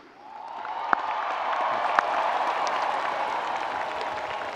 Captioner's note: audience applauding